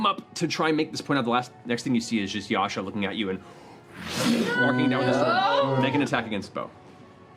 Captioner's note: swoosh